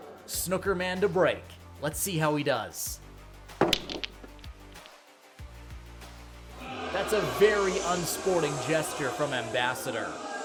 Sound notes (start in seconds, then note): 6.5 crowd boos